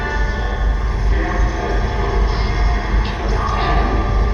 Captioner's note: ghostly voice